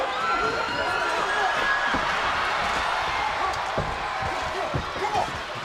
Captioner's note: crowd cheering